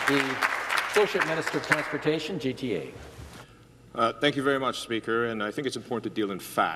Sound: some Applause

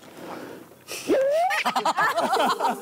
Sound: pffffft

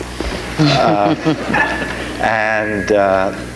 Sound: audience giggles

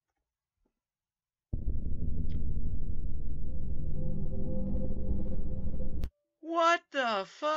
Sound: hell sound

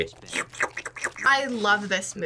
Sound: slurps

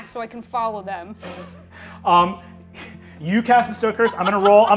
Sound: laughs

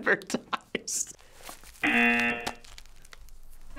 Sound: buzzer

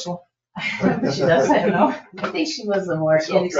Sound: people chuckle

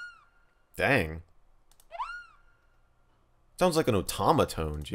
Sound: beep sounding

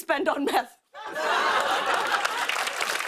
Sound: laughter

